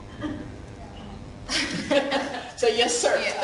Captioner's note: laughing